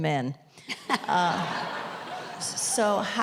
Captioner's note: audience laughter